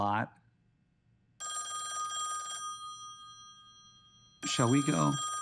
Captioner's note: phone ringing